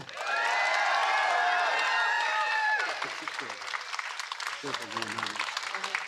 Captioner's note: applause